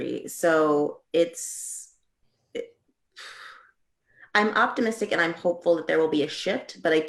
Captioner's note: sighing